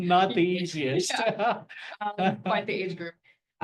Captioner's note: laughter